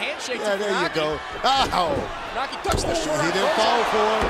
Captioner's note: laugh